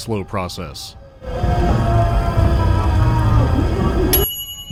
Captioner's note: more screams; ding